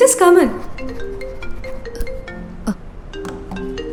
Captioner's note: mobile ringing